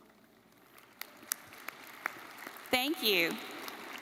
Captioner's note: audience applauding